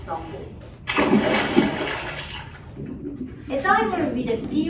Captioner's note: water splashing